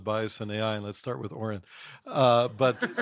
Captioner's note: laughing